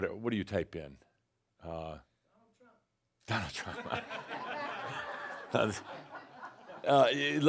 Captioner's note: laughter